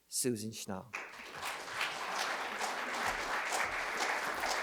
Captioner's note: applause